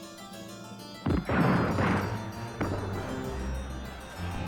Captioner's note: gunfire